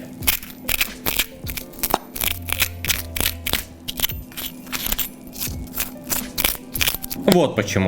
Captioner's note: really crunchy sounds